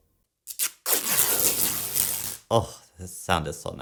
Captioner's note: ripping sounds